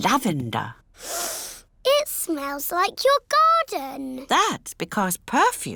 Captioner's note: sniffs